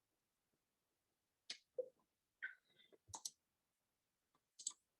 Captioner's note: mouse clicking